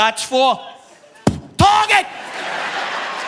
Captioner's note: mimics fist thud; audience laughing